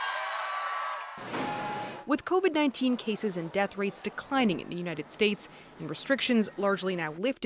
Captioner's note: cheers and Applause